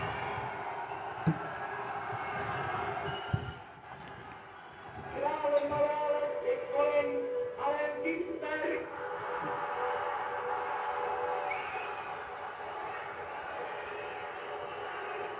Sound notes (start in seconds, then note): 4.9 announcer speaking in foreign language; 9.0 crowd cheers